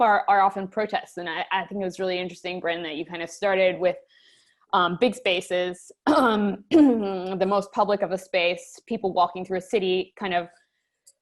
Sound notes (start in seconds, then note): 6.7 cough